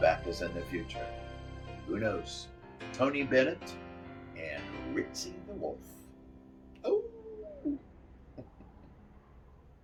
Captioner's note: howls